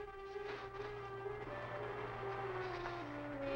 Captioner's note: suspenseful music; fan whirring